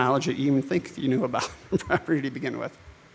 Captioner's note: laughs